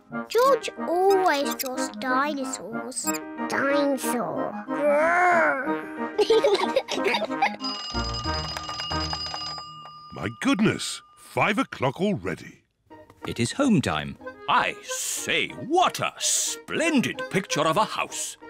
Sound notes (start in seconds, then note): 5.0 growls; 6.1 both laugh; 7.5 clock rings